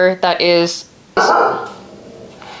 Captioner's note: barking